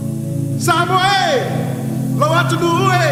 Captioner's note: non-english speech